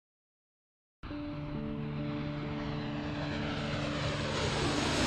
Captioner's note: jet engines roaring